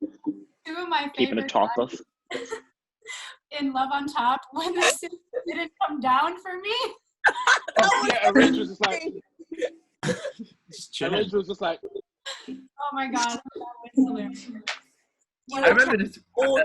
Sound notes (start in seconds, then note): 7.2 laughs